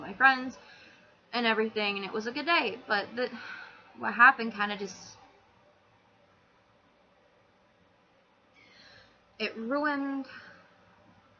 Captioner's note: pause, exhale